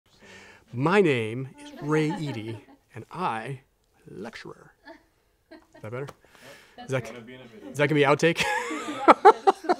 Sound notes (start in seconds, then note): 6.9 laughing off camera